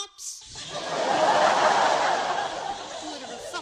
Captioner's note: laughter